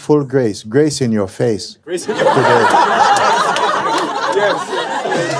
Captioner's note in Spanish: risas